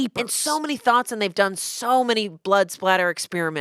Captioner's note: none